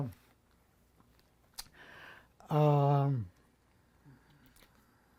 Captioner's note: pauses 11 seconds